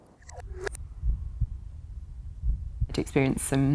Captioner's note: heartbeat pounding